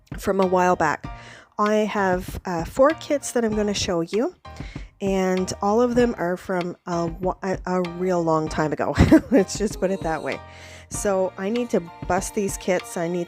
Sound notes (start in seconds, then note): 9.7 laughs